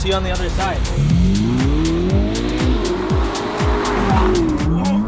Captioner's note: car engine revving; upbeat music